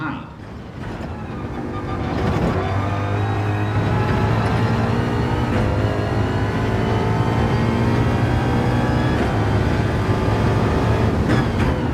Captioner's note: engines revving, cars noises